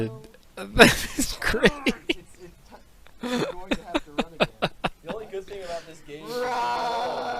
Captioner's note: still laughing